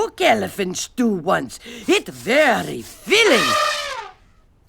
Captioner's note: elephant trumpets